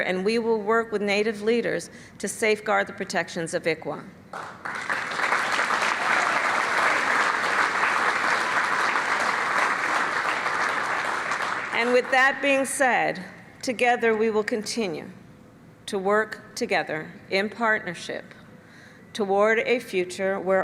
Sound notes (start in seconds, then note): 4.3 applause